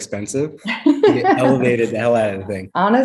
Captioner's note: laughs